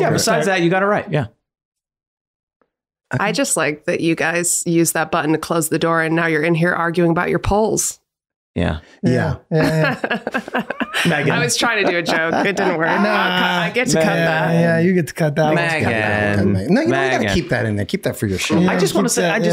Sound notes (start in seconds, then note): 9.5 laughing; 13.1 everyone laughing